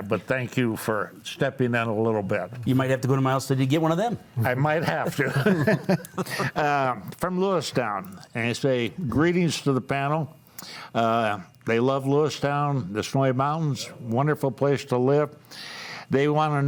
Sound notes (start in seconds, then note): 4.9 panelists laughing